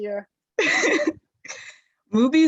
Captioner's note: laugh